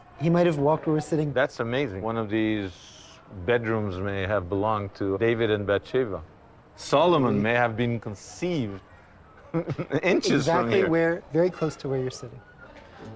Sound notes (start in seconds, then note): 9.4 chuckles